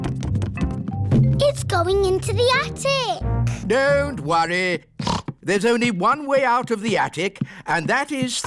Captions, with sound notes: It's going into the attic! Don't worry! (SNORTS) There's only one way out of the attic,